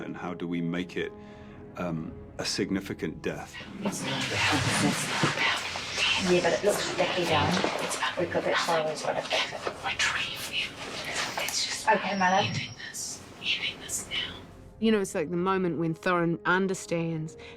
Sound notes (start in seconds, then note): none